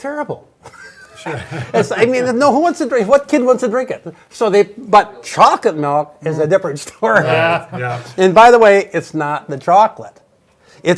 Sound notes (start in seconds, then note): 0.8 laughs; 7.1 laughs